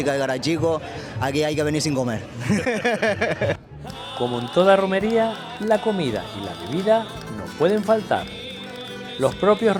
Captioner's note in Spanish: risas